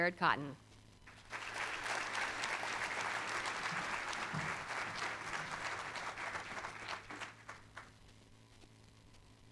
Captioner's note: applause